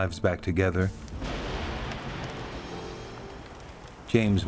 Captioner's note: thunder crashing